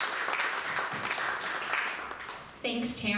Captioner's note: crowd applauding